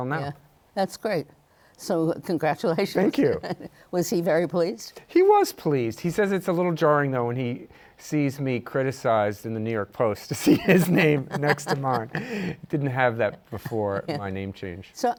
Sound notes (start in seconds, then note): 3.0 chuckles; 10.4 laughs